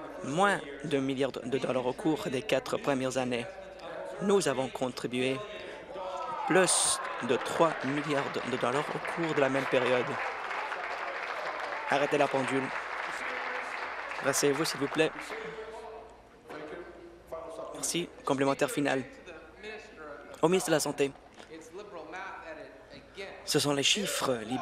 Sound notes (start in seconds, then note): 12.0 applause